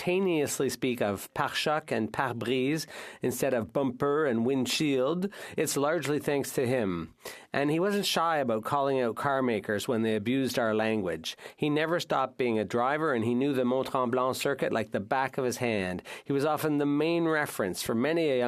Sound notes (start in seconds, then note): 5.8 speaking French